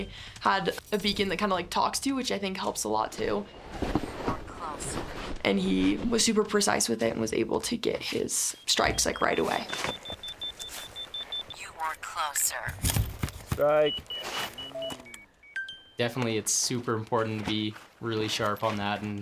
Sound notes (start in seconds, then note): 9.9 beeping; 14.1 beeping